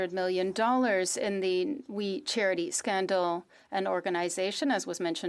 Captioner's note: speaking French